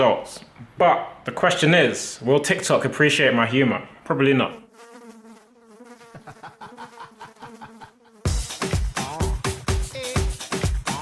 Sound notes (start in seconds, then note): 4.6 flies buzzing; 8.3 upbeat music